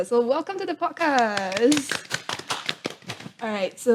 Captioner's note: claps